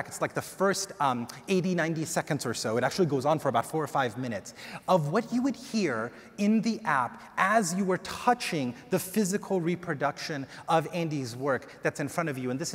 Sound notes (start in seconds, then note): none